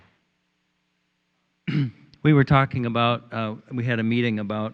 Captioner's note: clears throat